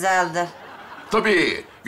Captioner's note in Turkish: Gülme efekti